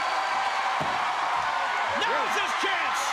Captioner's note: crowd cheering